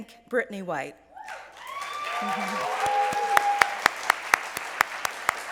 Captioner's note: applause and cheering